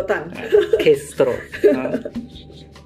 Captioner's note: laughs